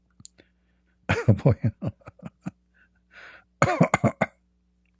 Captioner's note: laughter